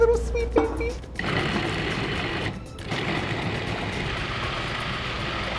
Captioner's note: food processor hums